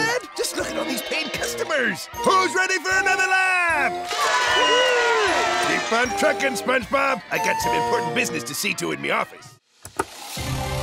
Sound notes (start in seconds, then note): 3.6 cheering